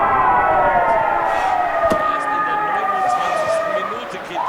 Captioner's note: gedämpfte Jubelschreie